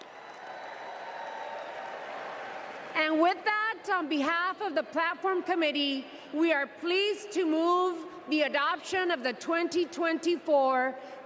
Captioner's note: speaking spanish